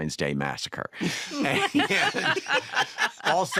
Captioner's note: laughing